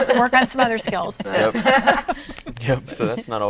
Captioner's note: laughing